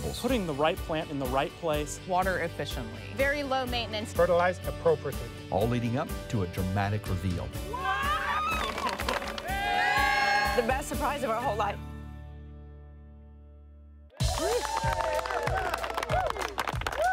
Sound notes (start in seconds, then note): 7.5 family screaming; 9.2 crowd cheering; 14.2 crowd applauding